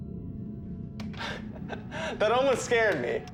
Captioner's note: laughing